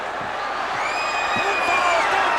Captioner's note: crowd cheers